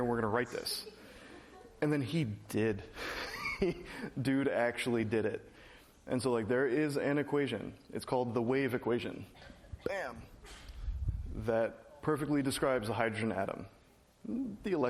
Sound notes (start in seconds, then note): 2.9 laugh